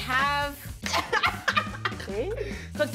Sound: laughing

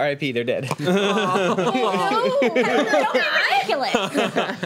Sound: overlapping chatter

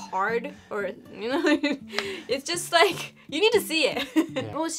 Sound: chuckle

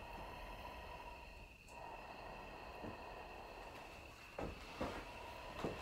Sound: masked man breathing heavily

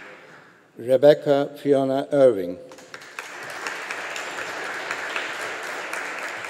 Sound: audience applauding

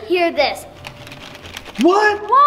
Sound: egg rattles

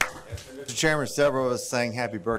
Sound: applause

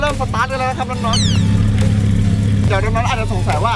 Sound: engine rumbling

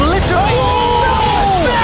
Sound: casters cry out

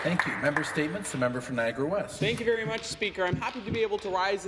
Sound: some applause

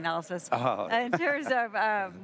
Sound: chuckles

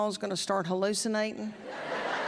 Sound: laughter

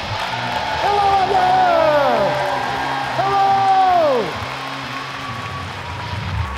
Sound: audience cheering

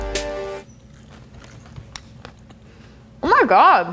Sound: chewing

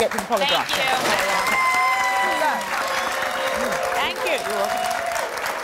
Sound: audience clapping

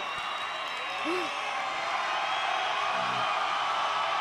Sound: crowd cheering

